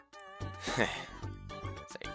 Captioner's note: sigh